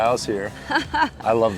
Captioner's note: laughing